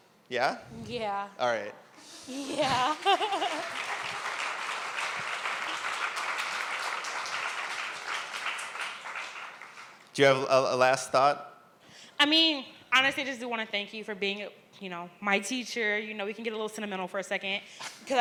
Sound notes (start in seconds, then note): 2.0 giggles; 2.6 applause